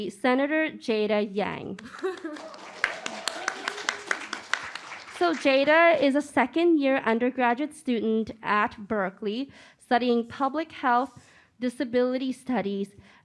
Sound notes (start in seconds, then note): 1.8 applause